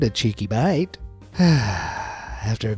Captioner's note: exhale